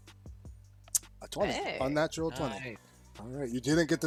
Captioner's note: sucks teeth